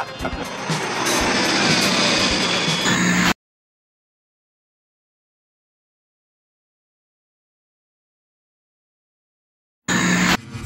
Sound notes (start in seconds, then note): 2.8 loud static; 9.9 loud static